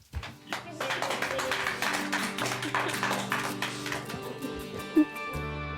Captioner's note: applause